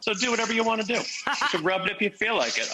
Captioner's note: Rachael Ray laughs